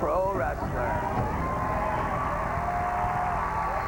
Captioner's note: cheers and applause